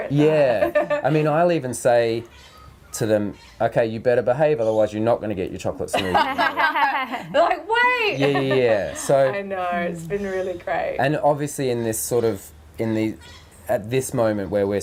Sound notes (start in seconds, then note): 5.9 laughing